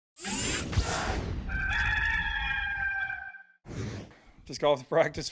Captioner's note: rooster crowing